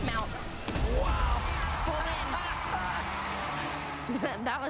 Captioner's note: laughs